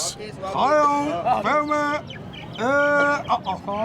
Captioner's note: non-english speech